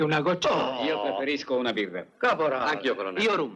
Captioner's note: scoffs